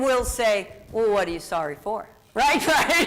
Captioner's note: laughs